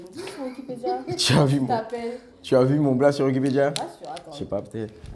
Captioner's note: laughs